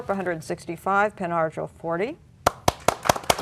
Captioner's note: applause